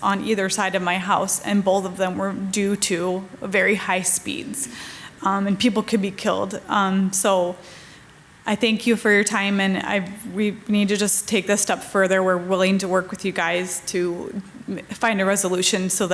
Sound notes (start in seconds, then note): none